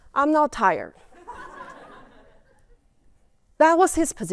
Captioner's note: laughter